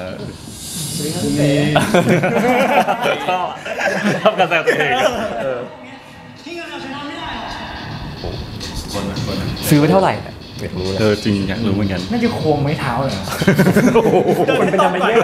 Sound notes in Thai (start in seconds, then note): 1.7 เสียงหัวเราะ